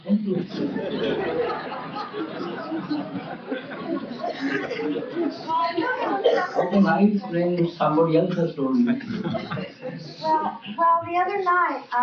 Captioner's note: laughter